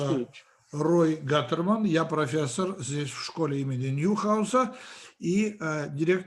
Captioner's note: translator speaking Russian language